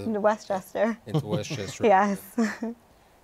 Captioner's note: laughter